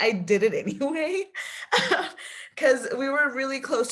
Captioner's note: laughing